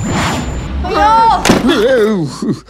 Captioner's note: Bangs the door